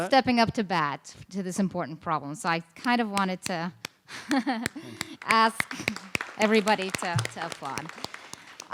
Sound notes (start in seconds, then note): 4.1 laughs; 4.6 claps; 4.7 applause